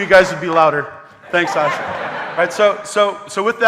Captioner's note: audience laughing